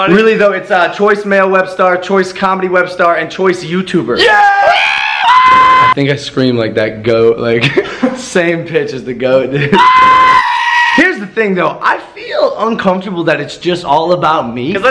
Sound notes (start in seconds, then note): 9.7 scream at same pitch